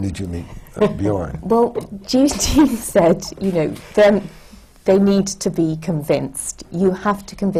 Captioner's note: laughs